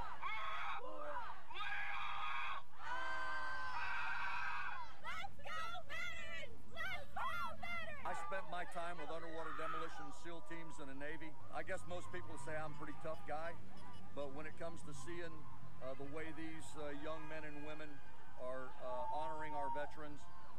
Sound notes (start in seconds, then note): 1.6 leader yelling; 2.8 cadets yelling